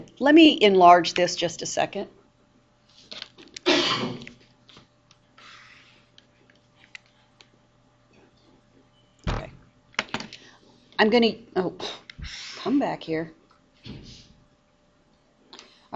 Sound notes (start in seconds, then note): 3.6 student coughs